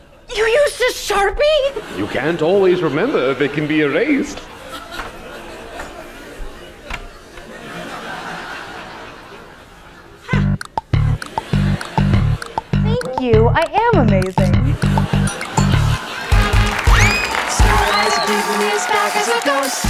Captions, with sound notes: You used a Sharpie?? You can't "always remember" if it can be erased! (sound of door opening) Thank you, I am amazing! Sir Isaac Newton is back as a ghost!